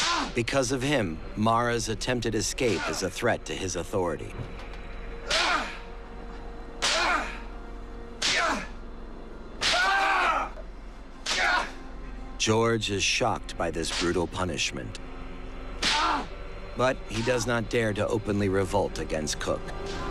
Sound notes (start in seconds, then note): 5.2 squalls in pain; 11.2 whip cracks; 15.8 squalls in pain